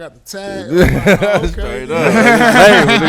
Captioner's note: laughing